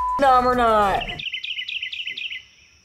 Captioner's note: chirping